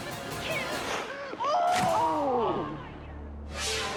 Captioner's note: spectator yelling; screaming